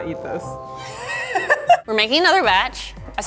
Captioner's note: laughing